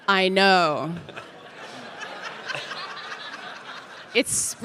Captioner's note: audience laughing